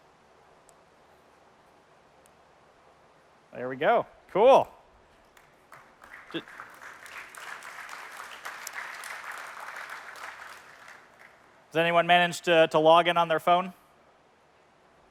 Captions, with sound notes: There we go. Cool. [APPLAUSE] Has anyone managed to log in on their phone?